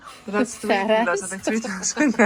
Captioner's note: laughter